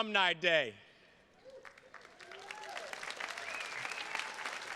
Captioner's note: attendees clapping